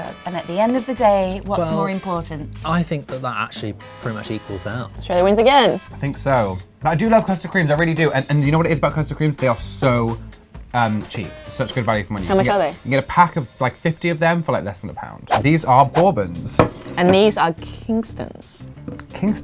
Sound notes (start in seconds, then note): none